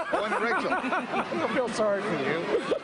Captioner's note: laughter